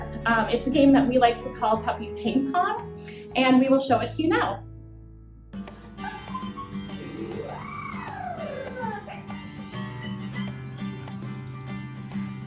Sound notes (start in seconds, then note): 5.9 trilling; 9.0 babbling; 11.2 lively music